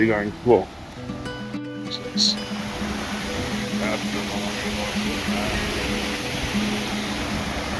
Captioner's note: water rushing